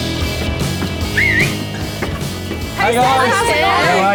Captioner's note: whistles